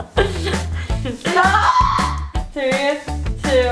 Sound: screams

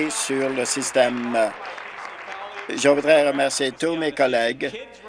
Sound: applause

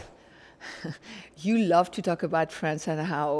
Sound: chuckles

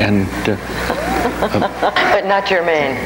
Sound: audience laughs

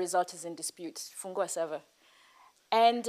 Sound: non-english speech

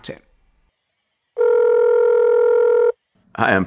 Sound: phone ringing

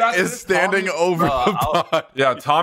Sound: laughs

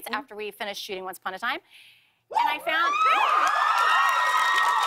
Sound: cheers and applause

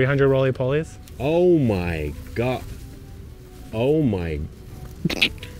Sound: chokes

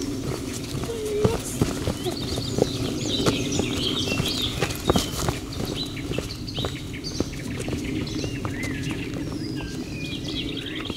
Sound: footsteps

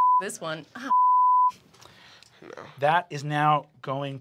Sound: beep

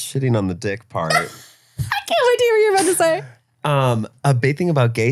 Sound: laughs

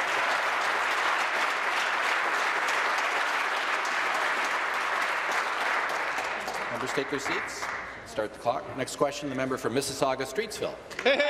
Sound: applause

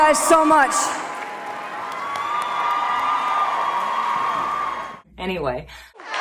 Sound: audience cheers, people clap

